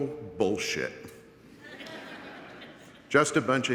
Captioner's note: audience laughing